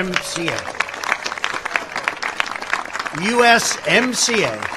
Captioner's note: applause